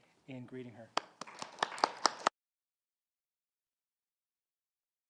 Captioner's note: audience applauding